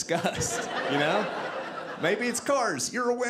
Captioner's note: audience laughing